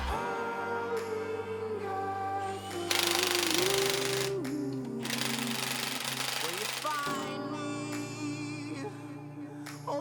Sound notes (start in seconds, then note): 3.0 whirring